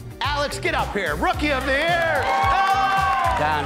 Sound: crowd cheering

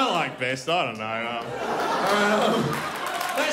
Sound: crowd laughs

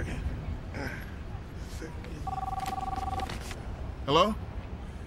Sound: phone rings

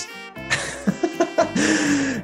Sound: laughter

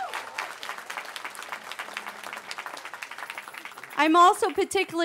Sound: cheering

